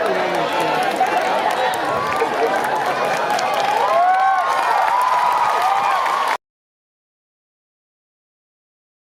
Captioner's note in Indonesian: Tepuk tangan